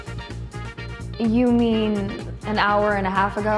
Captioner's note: none